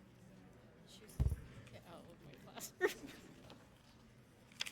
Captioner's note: speaking softly